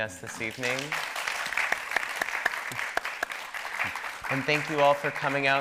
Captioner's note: audience applauding